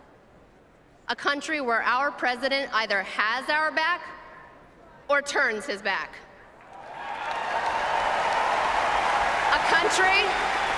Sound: applause

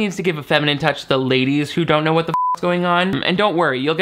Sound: beep

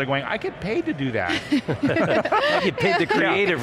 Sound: all laugh

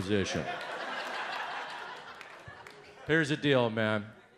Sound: audience laughs

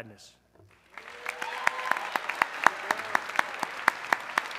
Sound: audience cheering

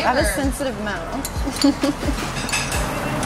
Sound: laughing

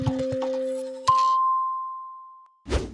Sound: dinging

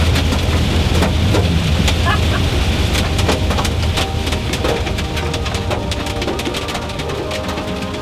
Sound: hail pattering; gentle pensive music

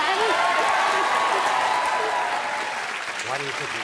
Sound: audience applauds

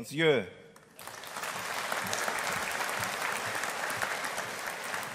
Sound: audience applauding

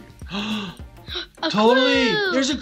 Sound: gasps

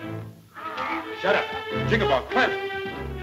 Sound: yelping

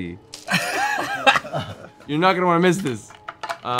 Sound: laughter

